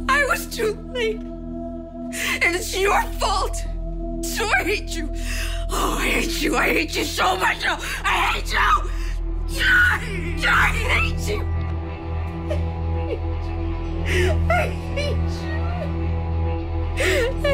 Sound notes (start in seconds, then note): 0.1 voice breaking; 9.6 screams; 12.3 sobbing